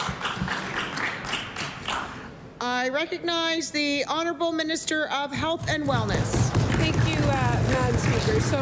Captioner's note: applause